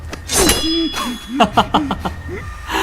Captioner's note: laughs